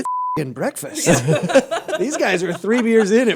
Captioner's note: laughter